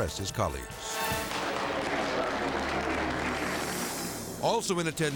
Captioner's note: suspenseful music; audience clapping